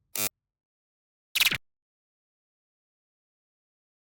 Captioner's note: static